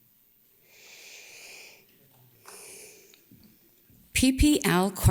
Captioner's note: breathes deeply